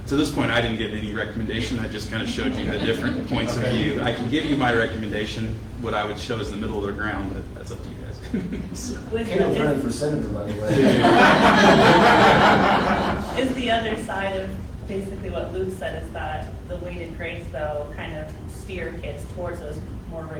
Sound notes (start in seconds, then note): 10.4 laughter